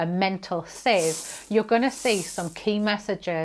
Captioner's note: bristles sweeping